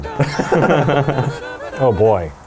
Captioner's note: laughs